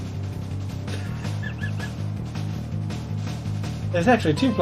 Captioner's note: laughs softly